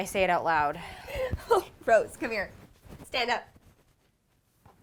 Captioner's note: laugh